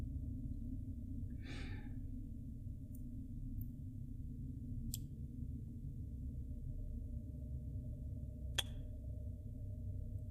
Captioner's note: kissing